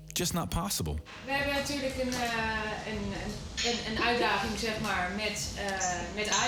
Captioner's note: speaking in foreign language